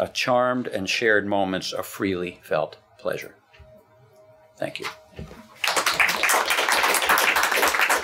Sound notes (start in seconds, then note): 5.6 clapping